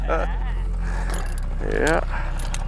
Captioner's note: laughs